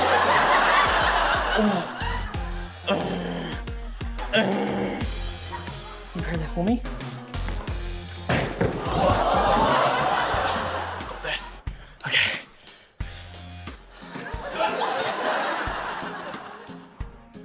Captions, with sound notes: (LAUGHTER) Oh! (GROANS) (GROANS) Can you grab that for me? (THUD!) Got that. OK. (LAUGHTER)